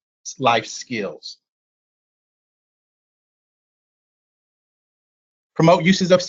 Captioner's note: silence